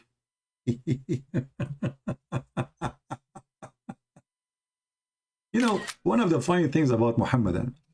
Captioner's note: Ketawa